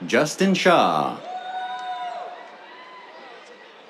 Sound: cheers

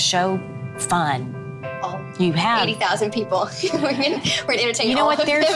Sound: laughs

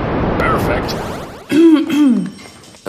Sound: coughs

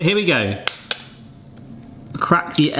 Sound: egg cracks

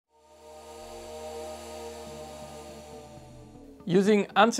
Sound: digital electronic hum

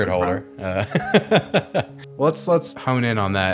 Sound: laughs

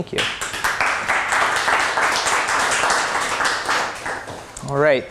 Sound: applause

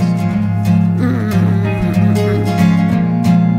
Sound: snore

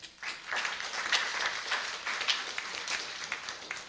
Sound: applause

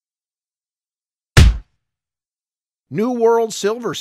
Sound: punch sound

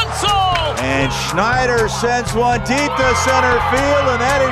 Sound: voiceover

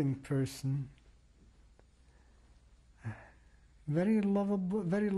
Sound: pauses for 3 seconds

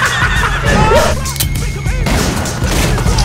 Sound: joker laughing maniacally; gun cocks; gunshot

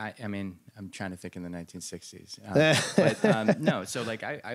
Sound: laughter

